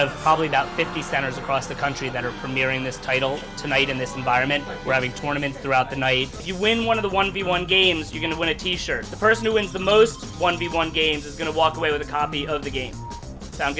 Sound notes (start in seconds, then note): none